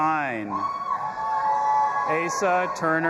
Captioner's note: audience applauding and cheering